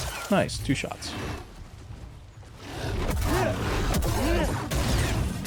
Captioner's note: grunting